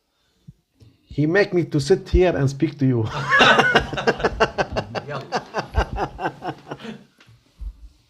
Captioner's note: laughter